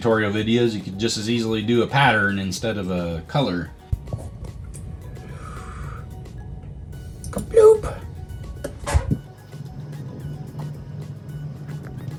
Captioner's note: sound effects